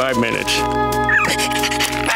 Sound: whimpering

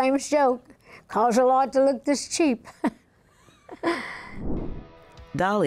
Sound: laughs

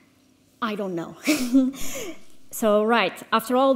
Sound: laughs

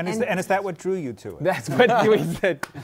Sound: laughing

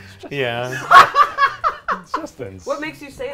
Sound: laughs

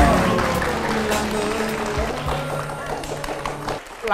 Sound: cheering

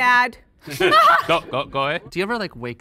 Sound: group laughing

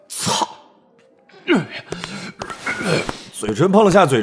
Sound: continues hurling

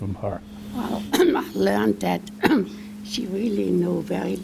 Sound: cough

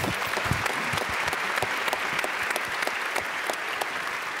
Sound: applause

